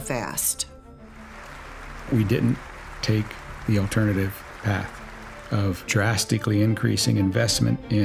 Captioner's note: audience applauding